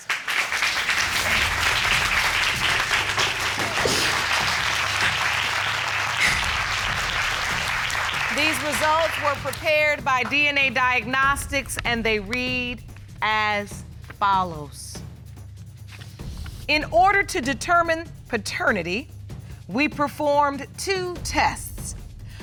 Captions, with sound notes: [applause] [sobs] These results were prepared by DNA Diagnostics and they read as follows. "In order to determine paternity, we performed two tests.